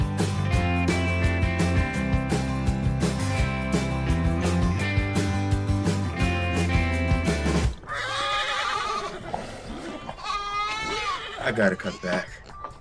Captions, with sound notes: (farm animal noises) I gotta cut back.